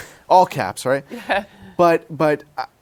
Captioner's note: laughs